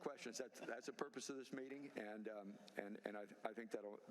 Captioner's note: laughter